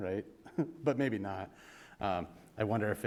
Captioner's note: chuckle